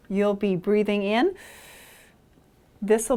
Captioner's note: inhales gently